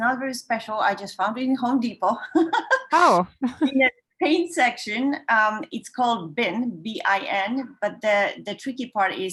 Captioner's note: laughs